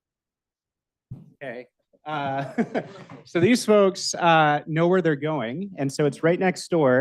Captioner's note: laughs